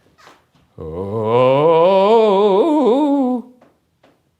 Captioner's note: howling